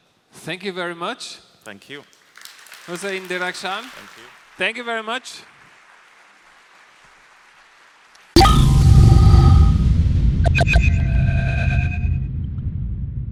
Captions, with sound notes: Thank you very much Hossein Derakhshan. (Applause)